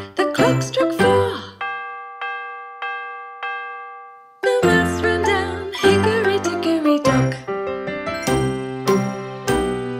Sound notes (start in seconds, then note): 1.0 clock chimes; 9.8 upbeat orchestral music